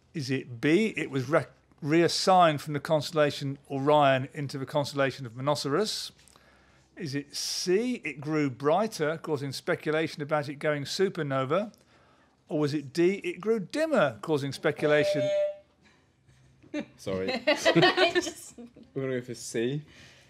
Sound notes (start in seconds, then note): 14.8 honk